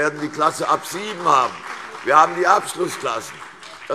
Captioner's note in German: Beifall CDU und BÜNDNIS 90/DIE GRÜNEN